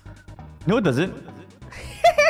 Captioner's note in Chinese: 迴聲